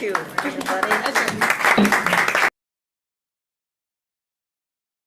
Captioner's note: group applauding